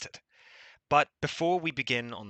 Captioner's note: breathes